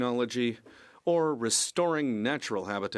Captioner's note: speaking French